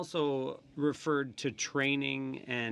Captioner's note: speaking in french